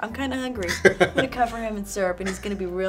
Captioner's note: laughs